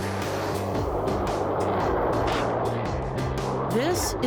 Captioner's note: water rushing